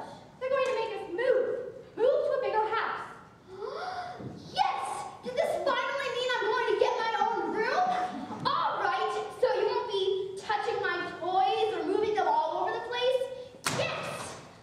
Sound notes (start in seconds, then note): 3.5 gasps